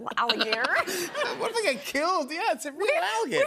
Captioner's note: laughter